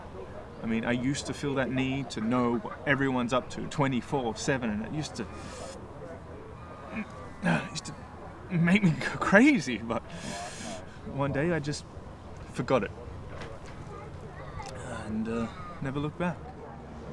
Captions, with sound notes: I mean I used to feel that need to know what everyone's up to 24/7 and it used to, (sighing) make me go crazy but, one day I just forgot it. And never looked back.